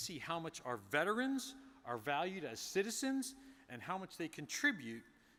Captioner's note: none